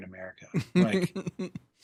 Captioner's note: chuckle